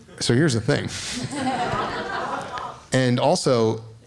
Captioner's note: laughing